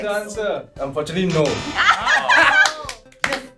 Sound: laughs

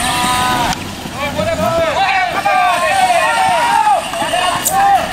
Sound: crowd cheering

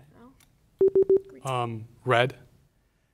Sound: beep sounds

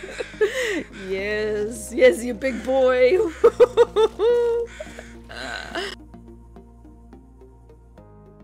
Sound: laughs

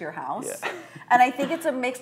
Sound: chuckling

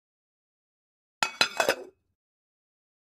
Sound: sound of pan

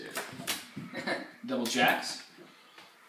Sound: snickers

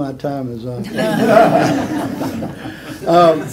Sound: laughter

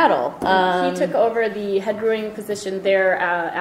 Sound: voiceover

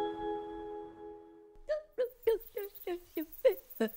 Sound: humming

